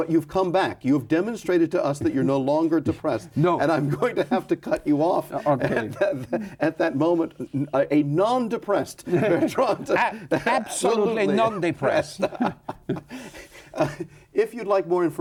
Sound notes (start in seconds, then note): 7.4 laughs; 11.8 both laughing